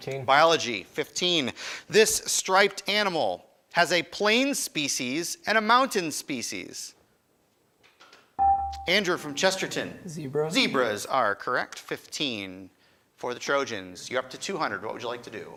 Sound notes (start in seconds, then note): 8.4 buzzer chimes